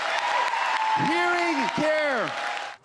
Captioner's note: cheers and Applause